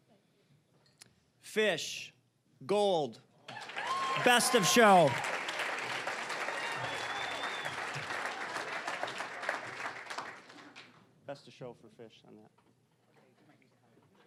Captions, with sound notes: Fish, gold-- best of show! (cheering, applause) Best of show for fish on that.